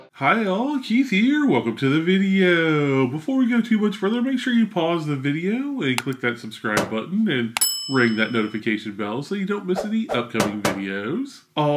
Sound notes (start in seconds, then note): 6.0 button clicking; 7.6 bell ringing; 9.8 icons popping